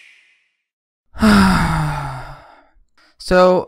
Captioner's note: sigh